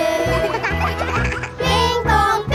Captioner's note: giggling; all singing